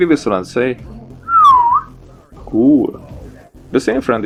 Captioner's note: whistle